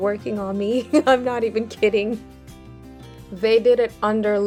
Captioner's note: laughs